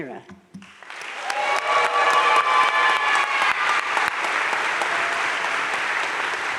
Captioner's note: crowd cheering and applauding